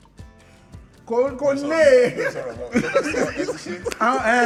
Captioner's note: everyone laughs